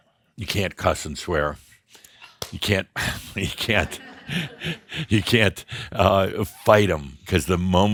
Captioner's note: some chuckles at reaction